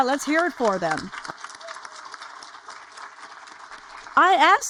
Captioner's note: audience applaud